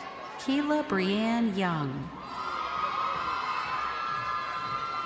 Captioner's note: crowd cheering